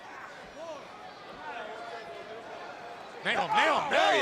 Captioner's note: crowd chatter